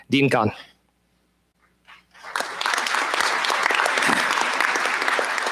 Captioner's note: applause